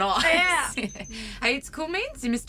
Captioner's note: computer beeps and trills as the scan completes